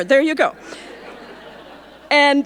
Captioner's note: audience laughing